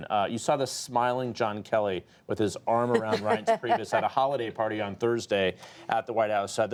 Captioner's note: laughter